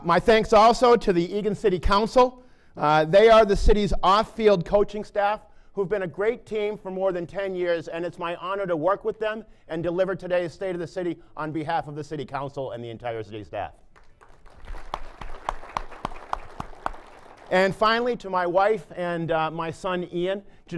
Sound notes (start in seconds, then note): 13.9 applause